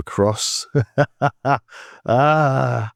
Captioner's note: laughs